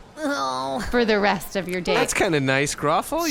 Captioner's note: groans